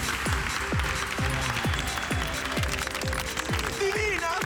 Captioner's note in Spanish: Aplausos